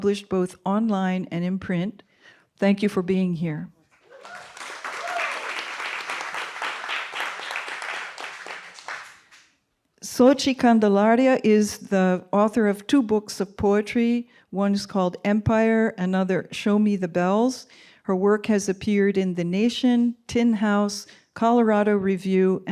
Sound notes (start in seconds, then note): 4.0 applause and cheering